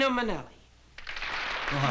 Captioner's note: applause